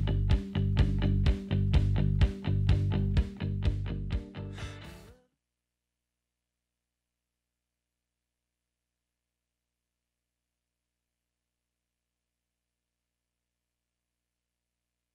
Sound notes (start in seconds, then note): 6.4 audio drop